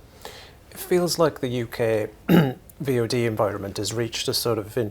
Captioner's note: cough